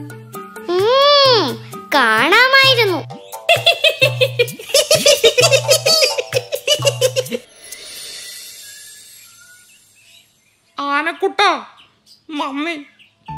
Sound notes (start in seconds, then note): 0.8 mockingly; 3.1 rabbits giggle